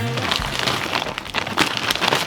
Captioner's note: bag crackles